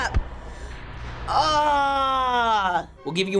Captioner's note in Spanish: ruge bruscamente; gemidos